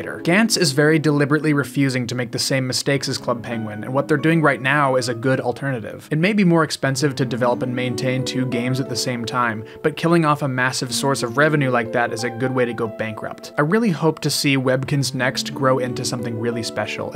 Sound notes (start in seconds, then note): none